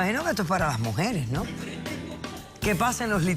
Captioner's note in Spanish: risas